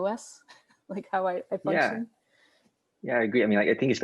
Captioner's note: laughs